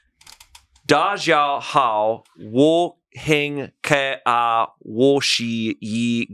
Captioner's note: speaks foreign language